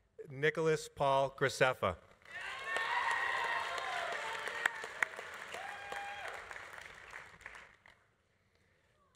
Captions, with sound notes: Nicholas Paul Graceffa. (audience applauding) (audience cheering)